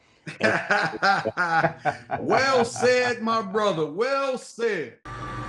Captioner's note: laughs